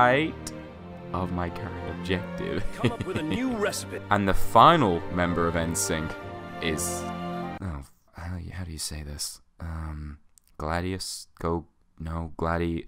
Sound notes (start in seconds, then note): 2.5 heh heh heh